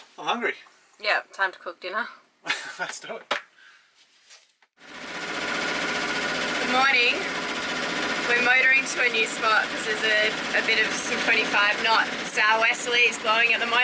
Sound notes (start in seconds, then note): 2.4 laughs; 5.3 motor whirring